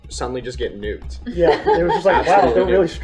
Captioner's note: laughter